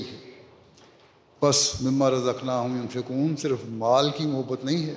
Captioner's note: Arabic